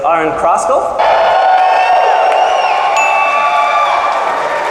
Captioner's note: crowd cheering